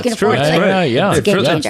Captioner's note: everyone chattering